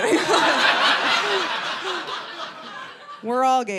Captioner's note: audience laughing